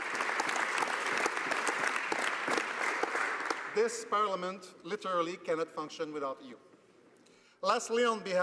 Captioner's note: applause